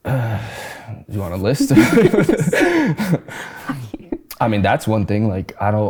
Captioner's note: both laughing